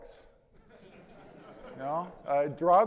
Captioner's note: audience laughing